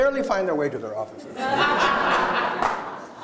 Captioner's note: laughter